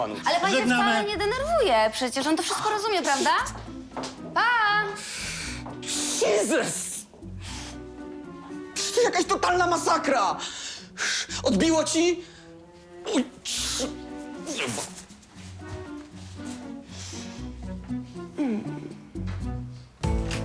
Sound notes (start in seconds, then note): 13.0 groans; 18.3 a purr of satisfaction